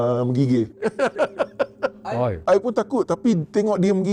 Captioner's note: laughing